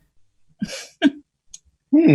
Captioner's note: Chris Laughs